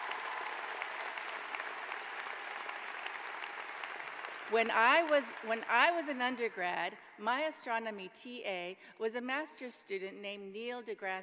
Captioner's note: applause